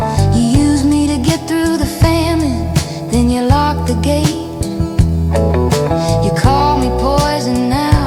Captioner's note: hissed